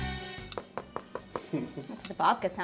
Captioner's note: knocking